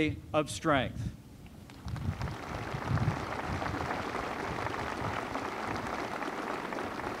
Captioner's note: applause